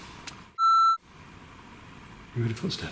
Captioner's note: high-pitched beep